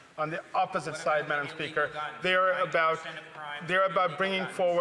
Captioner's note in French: voix de l'interprète